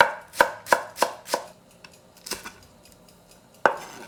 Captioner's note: knife chopping